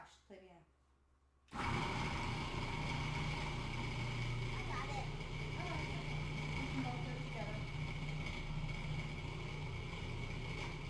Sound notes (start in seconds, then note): 2.4 blender grinds